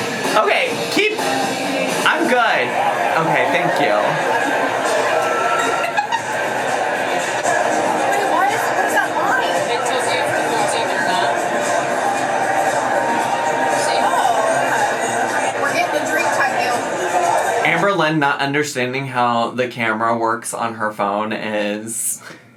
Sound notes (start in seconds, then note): 0.0 laughs; 5.9 laughing